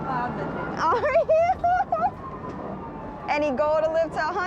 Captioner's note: laughing